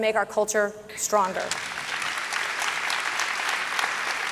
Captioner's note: audience clapping